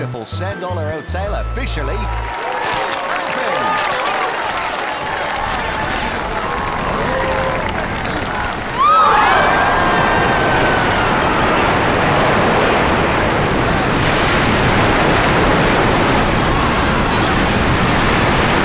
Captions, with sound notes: the beautiful Sandollar Hotel officially... Open. [crowd applauding] Huh? [crowd gasping]